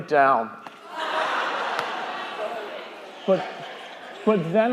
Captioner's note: crowd laughing